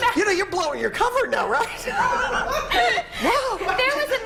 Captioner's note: laughter